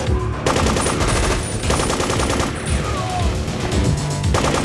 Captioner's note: machine guns firing; man screams